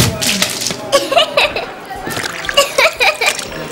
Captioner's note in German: Mädchen kichert